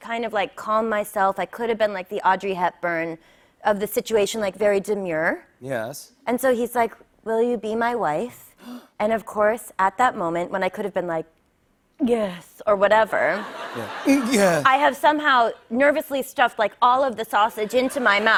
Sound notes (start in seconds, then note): 7.7 gasps; 13.3 laughter